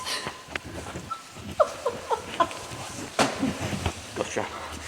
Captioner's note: laughing